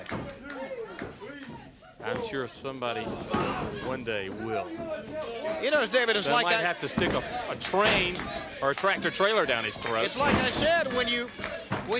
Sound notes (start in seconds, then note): 2.7 crowd chatter